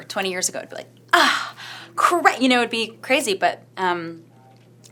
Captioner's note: gasps